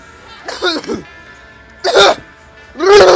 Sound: cough cough* *COUGH

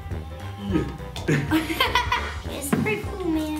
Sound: laughing

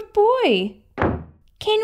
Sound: slam!

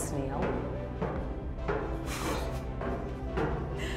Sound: footsteps thumping

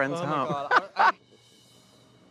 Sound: laughs

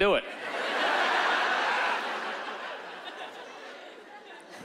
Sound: laughter

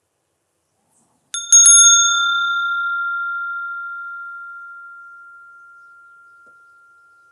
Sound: sound of the bell

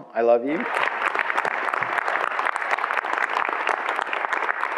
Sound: audience applauds

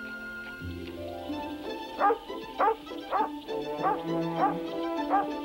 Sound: upbeat music; Shep barking

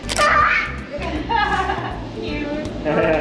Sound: laughing

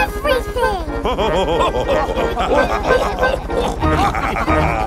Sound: chuckles; all laughing

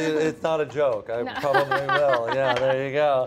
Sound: laughs

